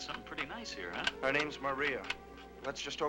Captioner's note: gun clacking